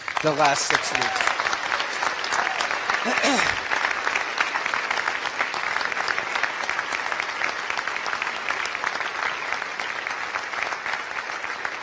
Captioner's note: applause